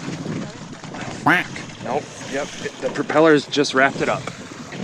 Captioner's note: water splashing; wind whooshing; duck quacking